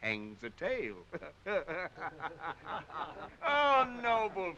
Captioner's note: men chuckling